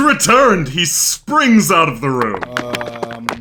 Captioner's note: clattering